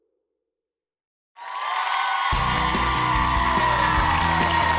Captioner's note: audience cheering